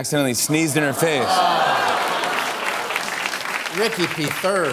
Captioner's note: audience awws